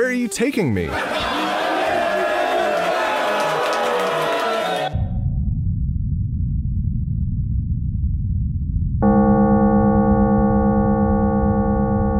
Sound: uproarious laughter and applause

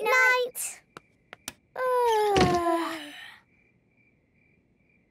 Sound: both yawning; light clicks

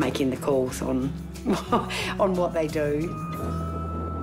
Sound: laughs

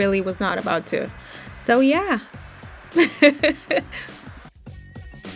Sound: laughs

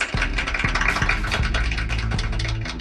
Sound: clapping

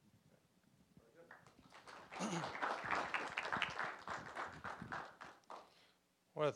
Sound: applause

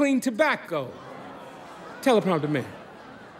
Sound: crowd murmuring

